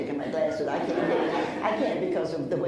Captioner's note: laughs